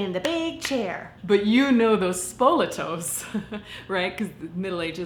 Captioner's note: laughs